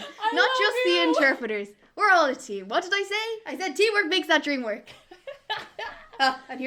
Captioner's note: laughing